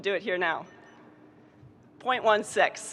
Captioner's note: stopwatch beeping